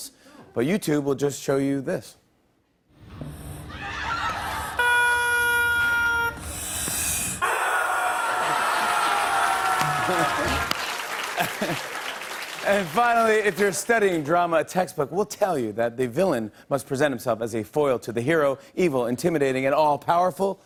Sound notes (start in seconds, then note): 3.5 laughter; 4.5 air hisses, squeaks; 6.4 air hisses; 7.4 loud wailing; 8.3 applause; 9.3 laughs